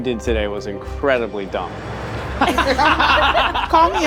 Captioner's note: all laughing